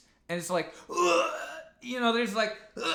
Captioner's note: imitates gasping